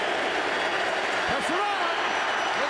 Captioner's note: cheering and Applause